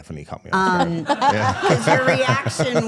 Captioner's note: laughing; everyone laughing